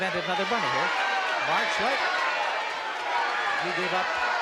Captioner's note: shouting